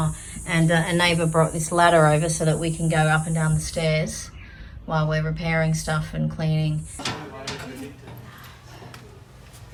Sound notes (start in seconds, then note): 6.8 feet in gumboots clang on ladder rungs